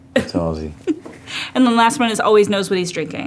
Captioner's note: laughs